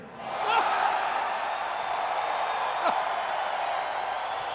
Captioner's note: audience cheering and clapping; Jerry chuckles